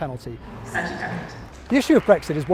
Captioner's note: applause